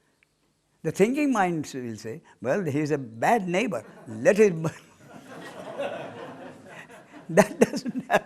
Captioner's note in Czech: smích